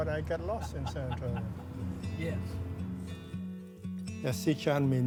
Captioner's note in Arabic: يضحك